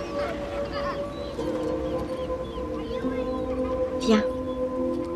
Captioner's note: children laughing